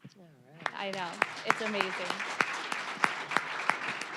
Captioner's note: applause